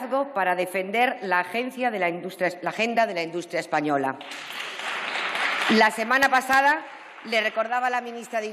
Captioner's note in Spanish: Aplausos